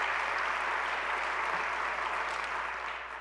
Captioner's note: applause